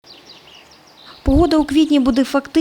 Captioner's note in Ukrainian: спів птахів